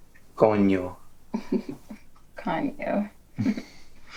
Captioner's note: speaking in foreign language; Manny and Annabelle chuckling